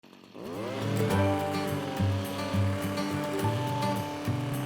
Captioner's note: cultivator whirs over easy music